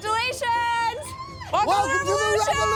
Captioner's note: squeals